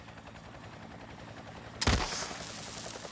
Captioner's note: loud BANG!